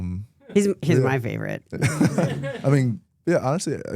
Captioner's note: laughs